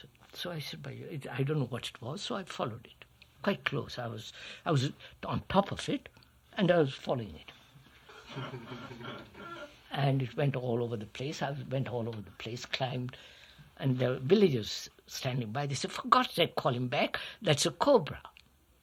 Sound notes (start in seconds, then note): 8.0 laughter